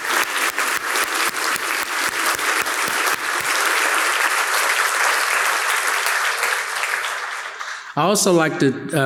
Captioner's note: crowd clapping